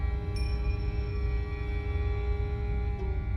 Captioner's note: bell rings